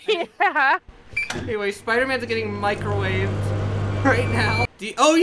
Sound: microwave startup

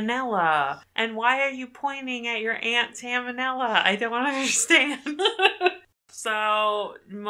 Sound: laughs

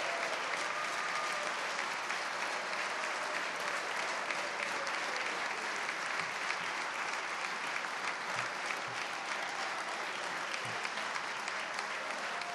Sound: cheers and applause

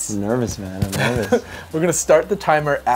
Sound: laughing

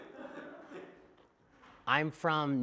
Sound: laughter

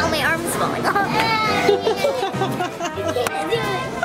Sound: laughing

